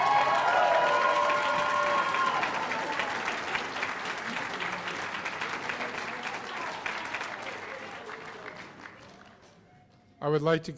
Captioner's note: cheers and applause